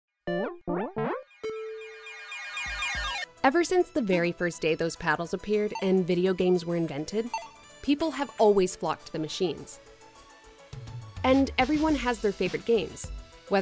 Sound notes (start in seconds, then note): 1.3 video game sound; 10.6 upbeat music